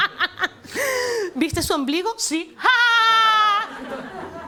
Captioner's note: laughs